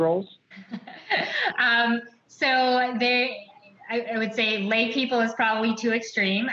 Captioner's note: laughs